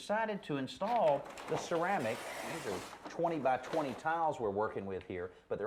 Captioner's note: rips paper